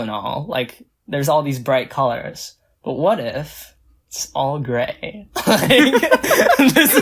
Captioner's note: both laugh